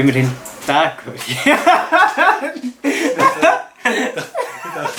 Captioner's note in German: lacht